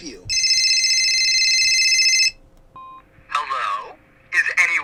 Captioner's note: phone rings